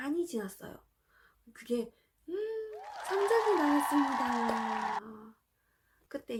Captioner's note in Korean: 박수